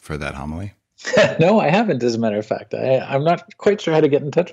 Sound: laughs

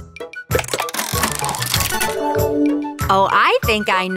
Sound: mechanical whirring

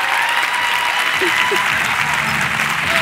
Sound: cheers and applause

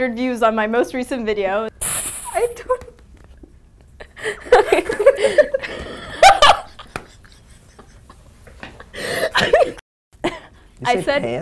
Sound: laughing

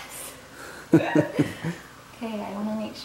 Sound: laughs

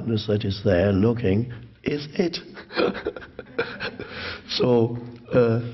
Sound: laughs

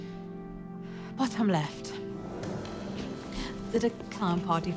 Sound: drawer opening

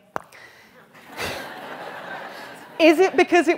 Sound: laughter

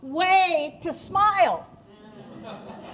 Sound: laughter

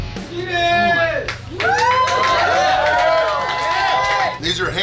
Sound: cheering & Clapping

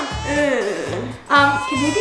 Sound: groans

